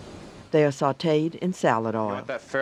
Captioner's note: voiceover